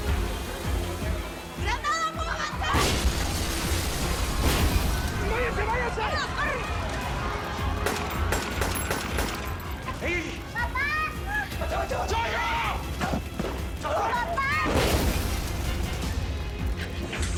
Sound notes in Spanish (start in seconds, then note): 2.8 Estruendo; 7.7 Disparos; 14.7 Estruendo